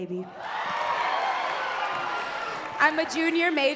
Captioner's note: crowd cheering and clapping